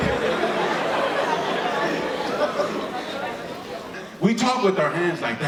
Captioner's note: audience laughing